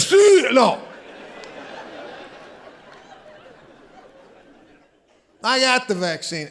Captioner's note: audience laughing